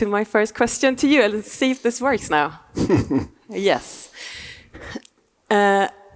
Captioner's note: laughing